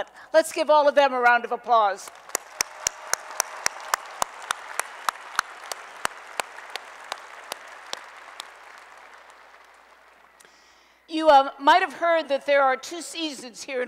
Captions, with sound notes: Let's give all of them a round of applause. [ Applause ] You might have heard that there are two seasons here